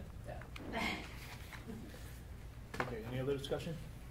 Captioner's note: laughing